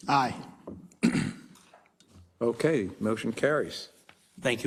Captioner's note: cough